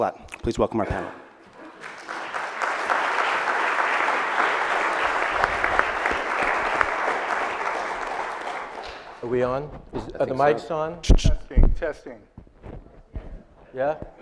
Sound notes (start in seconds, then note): 1.4 audience applauds